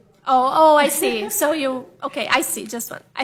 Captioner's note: off microphone